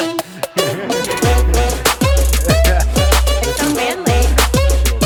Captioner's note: upbeat music; laughing